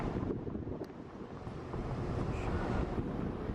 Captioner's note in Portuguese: som do vento